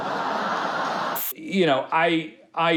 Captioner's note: crowd laughs